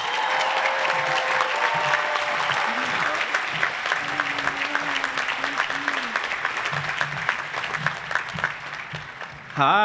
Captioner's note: applause